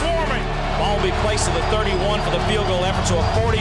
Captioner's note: voiceover